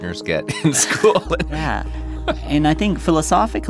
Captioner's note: chuckles